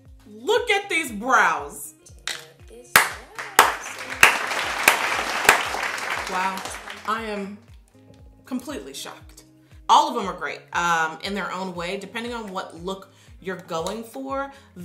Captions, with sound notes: Look at these brows. (clapping) Wow. I am completely shocked. All of them are great in their own way. Depending on what look you're going for,